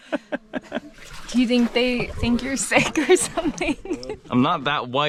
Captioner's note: laughing; chuckles